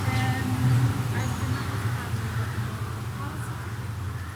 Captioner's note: women murmuring